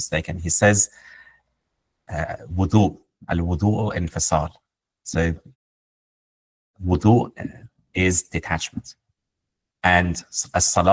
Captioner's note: speaks in Arabic